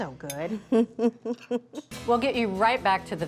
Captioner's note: chuckles